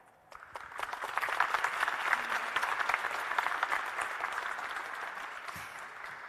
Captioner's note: audience and panel applauding